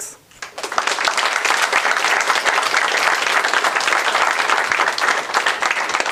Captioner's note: applause